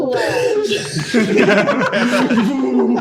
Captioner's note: gasps loudly